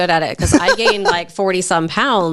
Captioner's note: laughs